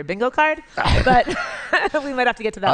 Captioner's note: laughter